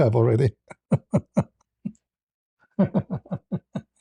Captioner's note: laughter